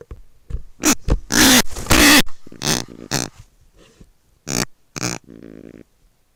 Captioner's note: hatch closes; squawks in indignation at volume of hatch